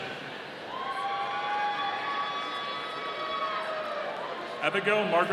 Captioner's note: audience cheering